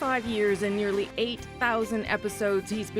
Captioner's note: applause